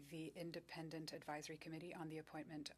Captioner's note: speaking French